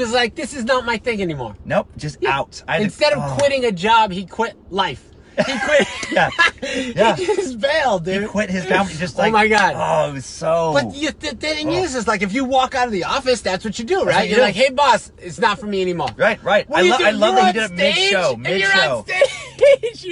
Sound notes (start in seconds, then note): 5.3 laughter